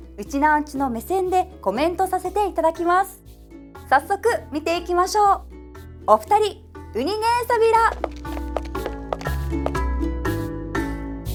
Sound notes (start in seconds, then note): 7.0 in Okinawan